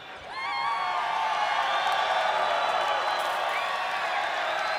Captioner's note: fans cheering